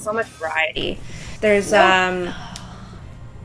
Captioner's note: sigh